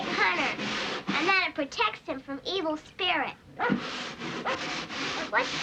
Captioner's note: barking